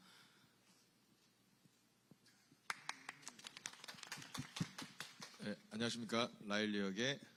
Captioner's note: clapping